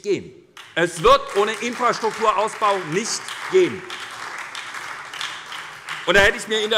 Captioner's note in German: Beifall bei der SPD